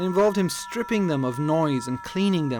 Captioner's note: persistent digital whine